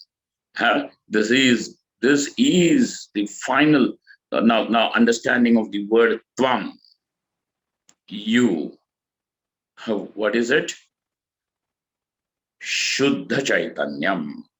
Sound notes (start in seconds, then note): 10.2 sanskrit